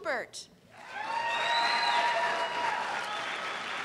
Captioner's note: cheers and applause